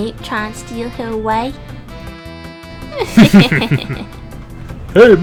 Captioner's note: both chuckle